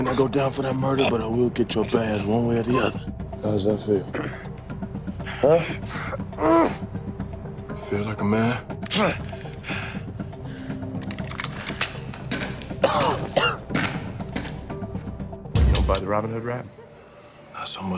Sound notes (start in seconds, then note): 5.7 groans; 8.3 grunts; 12.3 coughs